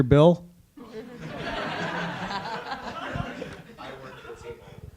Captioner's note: audience laughing